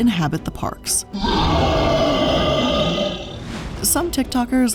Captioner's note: monster growling